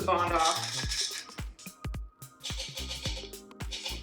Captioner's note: rattling